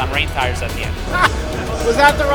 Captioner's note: laughing